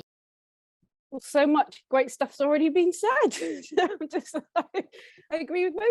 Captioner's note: laughs